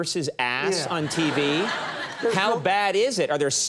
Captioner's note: audience laughing